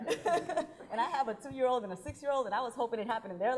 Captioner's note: laughing